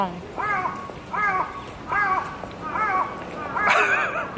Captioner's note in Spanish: sonidos de pájaros en Japón; ríe